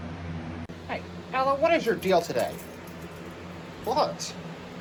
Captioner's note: normal voice